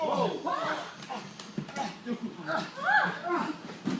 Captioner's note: grunting